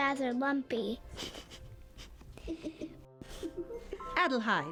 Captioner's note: giggling